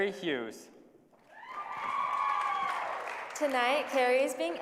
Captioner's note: applause